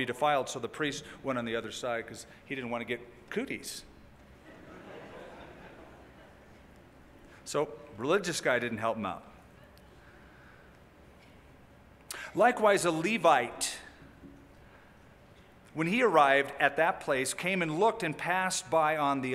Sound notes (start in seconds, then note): 4.4 laughter